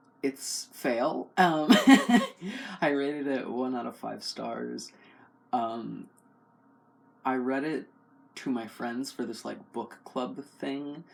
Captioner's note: laugh